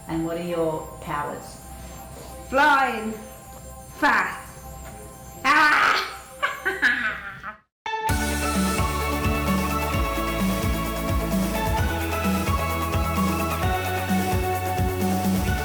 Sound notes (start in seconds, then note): 5.4 evil laughter; 7.9 upbeat music